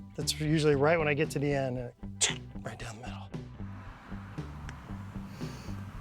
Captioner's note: clicks